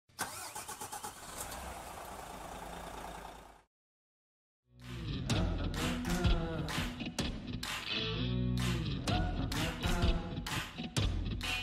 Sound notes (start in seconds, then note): 0.1 coach engine ignites and revs; 4.8 catchy music